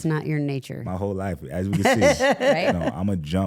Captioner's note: Stephanie chuckling